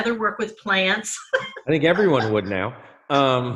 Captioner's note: laughs